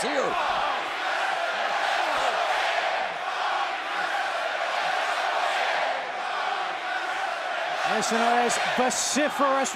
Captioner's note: crowd cheering